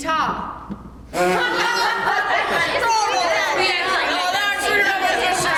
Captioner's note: laughter